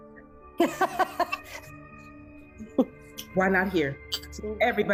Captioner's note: laughs